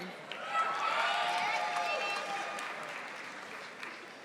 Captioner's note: audience applauding